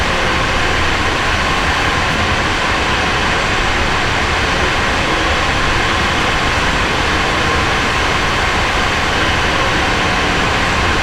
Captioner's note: engine revving